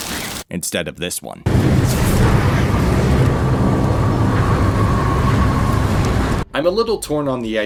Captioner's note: rumbling thunder, howling wind